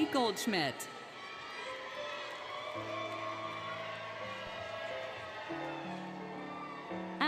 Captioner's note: cheering, Music